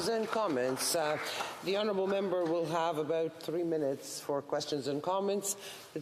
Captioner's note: applause